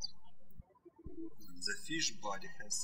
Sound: birds chirping

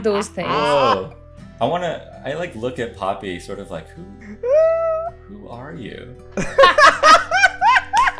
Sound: laughter

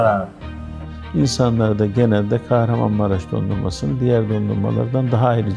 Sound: speaking in foreign language

